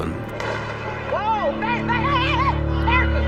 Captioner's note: gunshots firing